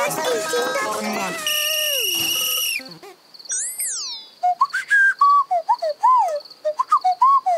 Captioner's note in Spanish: pía